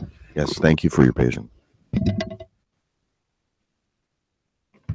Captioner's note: microphone rattling